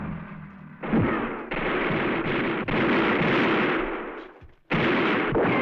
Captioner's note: gunfire